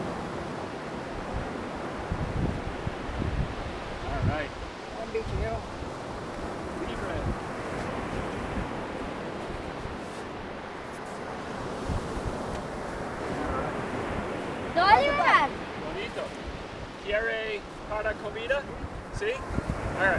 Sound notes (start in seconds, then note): 0.3 waves crashing; 5.1 waves crashing; 6.8 speaking foreign language; 10.4 waves crashing; 13.1 speaking foreign language